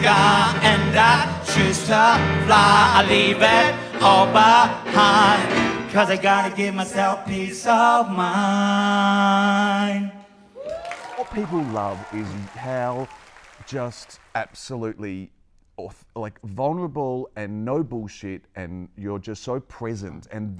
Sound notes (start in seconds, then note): 10.6 applause